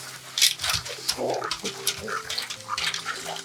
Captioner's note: dog growls